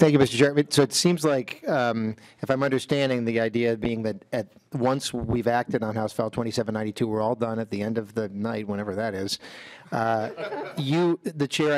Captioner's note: laughing